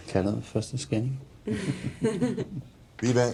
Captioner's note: laughter